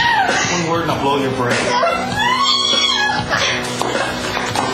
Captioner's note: scream; crying